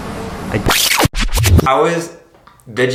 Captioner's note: record scratching